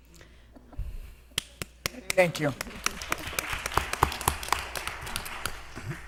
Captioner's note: applause